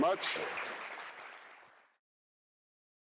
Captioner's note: applause